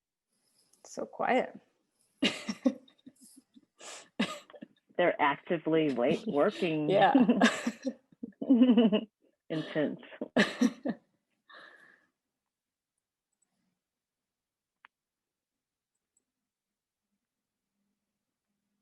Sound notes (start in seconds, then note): 2.2 laughs; 7.0 both laughing; 10.3 both laughing